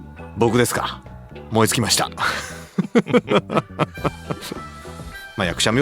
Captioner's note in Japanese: 笑い